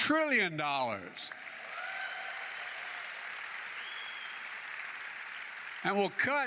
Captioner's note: applause